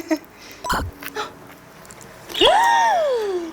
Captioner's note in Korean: 뜯뜯